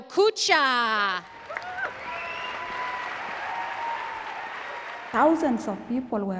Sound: audience applauds and cheers

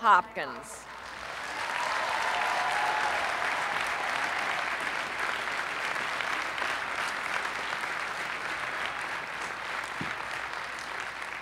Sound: applause

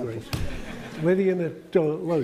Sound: laughter

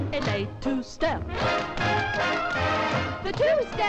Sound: women tapping

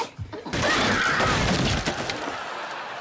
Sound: falling

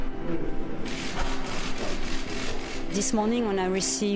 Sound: cameras shooting; people talking

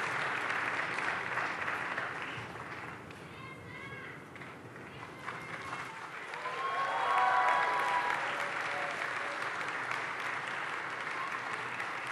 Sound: applause

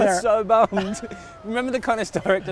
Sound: laughs

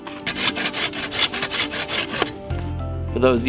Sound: scraping

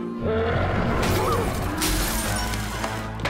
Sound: gasping

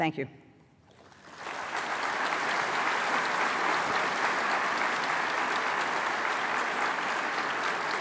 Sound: applause

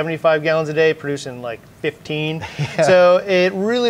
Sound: chuckles

